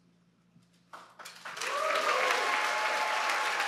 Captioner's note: applause